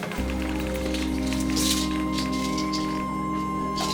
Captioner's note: pills rattling